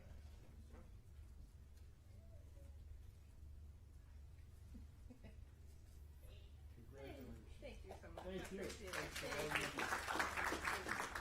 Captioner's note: applause